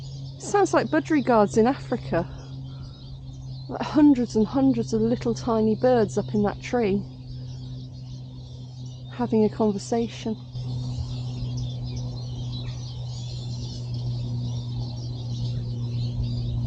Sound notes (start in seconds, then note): 11.4 birds chirping